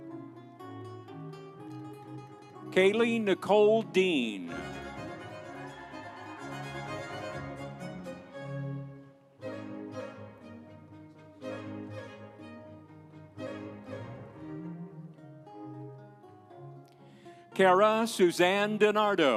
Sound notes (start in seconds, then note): 4.6 audience cheering; 5.4 instrumental music